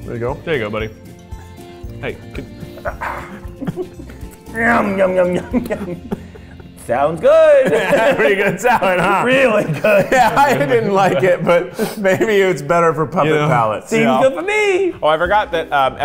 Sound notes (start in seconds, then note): 2.8 grunting; 7.3 laughing